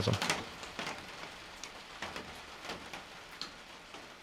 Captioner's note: rain pattering